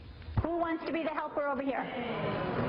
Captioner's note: voiceover